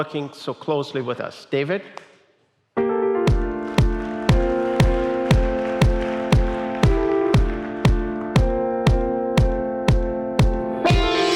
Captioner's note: applause